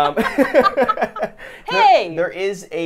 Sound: laughs

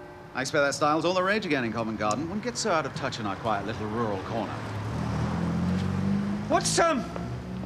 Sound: none

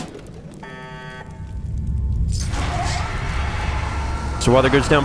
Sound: rumbling turns to Suctioning

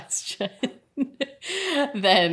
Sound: laughing

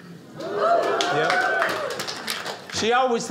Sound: audience cheers

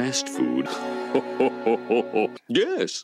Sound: laughs

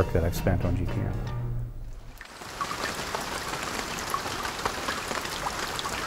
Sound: raindrops

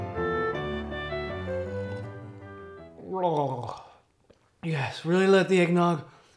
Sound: sips loudly

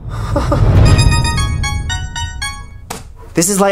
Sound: yandere laugh; Light's weird fucking ringtone

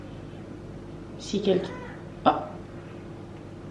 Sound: baby cries

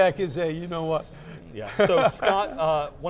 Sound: laughs

